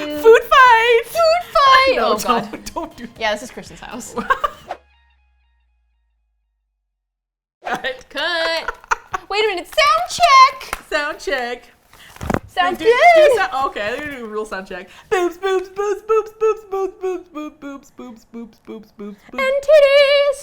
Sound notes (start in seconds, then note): 3.9 laughs; 5.4 whoosh; 7.6 laughs